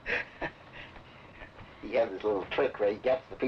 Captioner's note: laughing